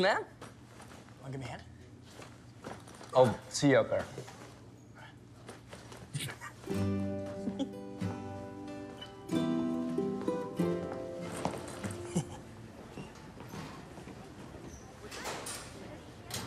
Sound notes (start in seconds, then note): 7.4 Warren laughs; 11.8 chuckles